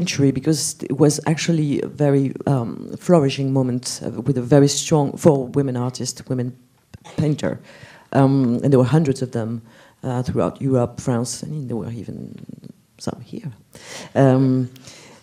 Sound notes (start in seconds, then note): none